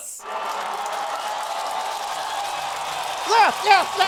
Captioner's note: applause